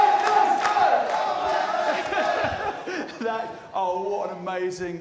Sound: crowd chanting

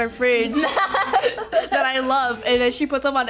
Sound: laughs

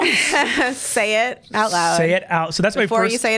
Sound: laughs

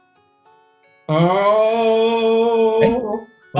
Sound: wails

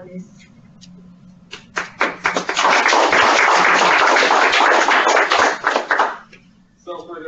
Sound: clapping

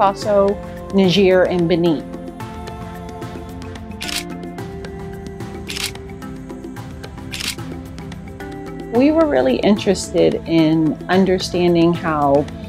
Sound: shutter clicks

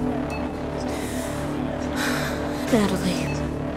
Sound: she sighs

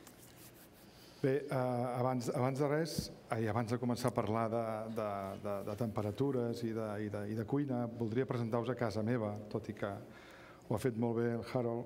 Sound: speaking catalan

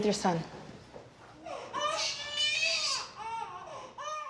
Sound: baby crying

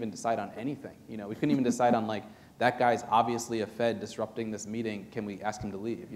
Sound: chuckle

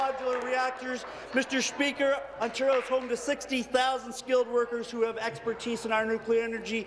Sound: applause

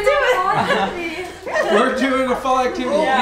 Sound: laughing

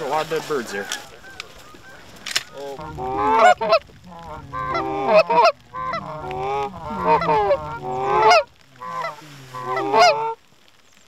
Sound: goose Calling

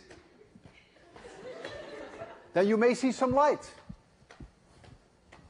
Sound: laughter

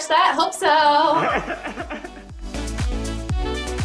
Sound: Quincy laughing; upbeat music

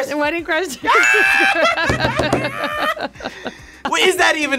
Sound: laughing; bell dinging

